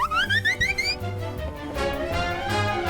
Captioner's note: whizzing by like a wasp